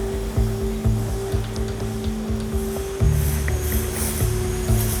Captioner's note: tense music; machine whirring